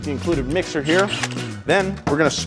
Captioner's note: mixer buzzes